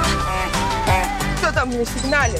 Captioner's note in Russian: сигнал